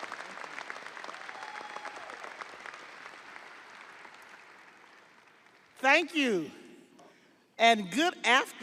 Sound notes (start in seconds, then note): 0.0 audience applauding; 0.8 audience cheering